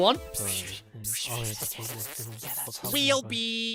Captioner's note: whispering